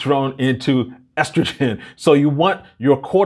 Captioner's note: chuckles